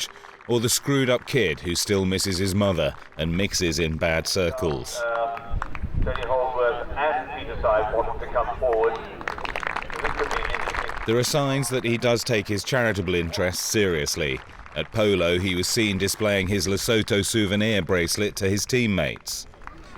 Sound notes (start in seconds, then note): 5.7 polo announcer speaking over loudspeaker; 9.8 audience clapping